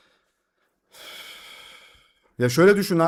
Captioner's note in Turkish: iç çeker